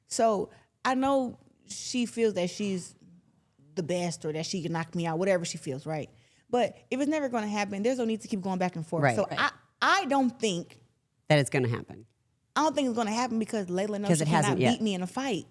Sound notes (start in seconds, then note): none